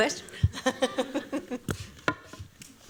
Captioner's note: laughs